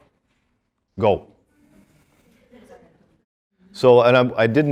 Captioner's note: students discussing